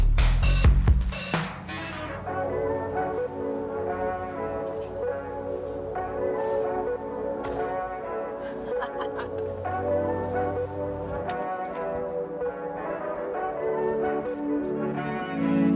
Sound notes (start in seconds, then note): 8.4 laughs